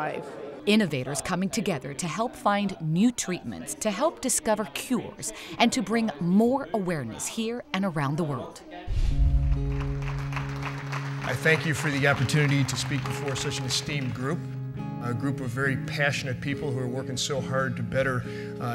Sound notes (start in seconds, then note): 9.5 applause